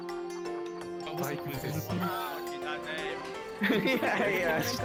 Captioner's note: chatter